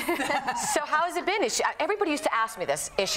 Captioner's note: laughs